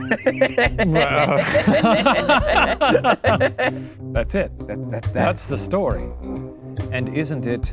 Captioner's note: laughs